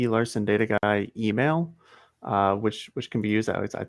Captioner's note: none